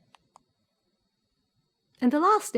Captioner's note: mouse clicks